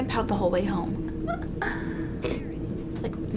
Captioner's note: Allie chuckles